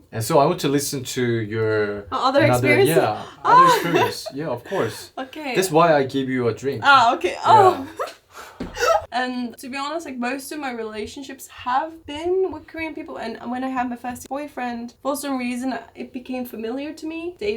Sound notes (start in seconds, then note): 7.2 laugh